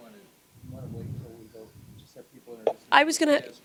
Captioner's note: gentle speaking